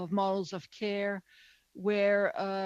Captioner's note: speaking french